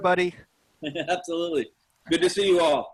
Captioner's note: laugh